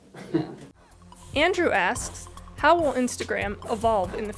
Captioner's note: voiceover